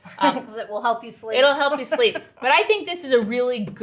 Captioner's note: laughs